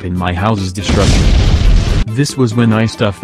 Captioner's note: explosion